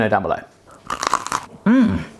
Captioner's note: crunch